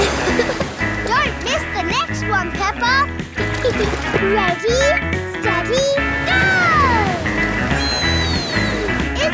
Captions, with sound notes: Don't miss the next one, Peppa! (GIGGLES) Ready, steady... Go! Whee!